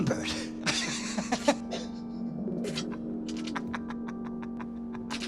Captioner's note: laughing hysterically